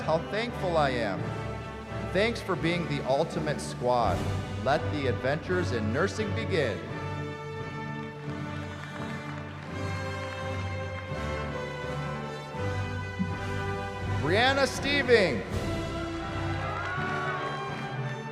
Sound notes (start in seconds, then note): 7.6 applause; 16.2 cheering